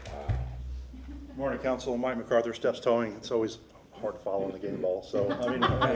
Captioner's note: applause